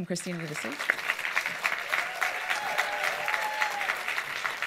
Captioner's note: audience applauds